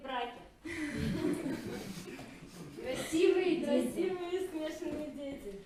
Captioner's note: audience laugh